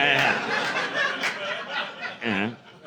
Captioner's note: laughter